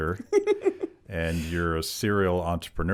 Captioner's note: laughing